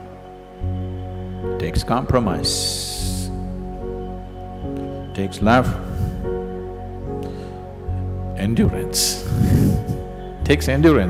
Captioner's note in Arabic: ضحك